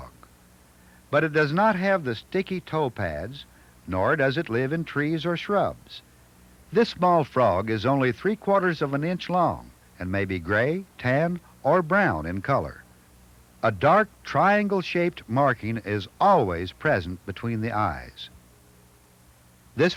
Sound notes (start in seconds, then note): none